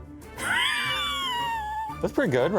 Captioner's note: laughing